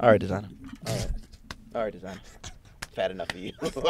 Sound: laughing

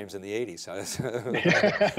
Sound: laughs

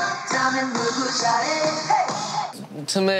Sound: chaotic 'Bang Bang Bang' was made

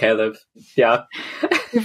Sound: laughs

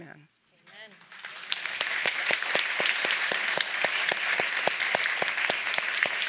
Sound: all applauding

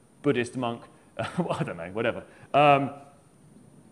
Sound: laughs

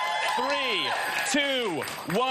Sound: audience applauding

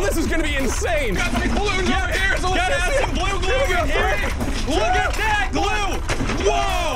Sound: screaming over each other; slam

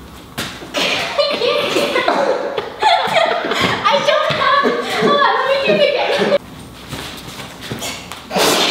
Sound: laughs

